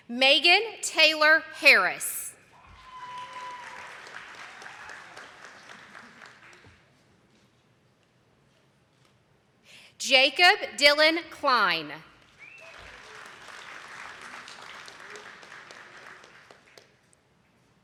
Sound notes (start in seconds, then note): 2.5 attendees clapping; 12.1 attendees clapping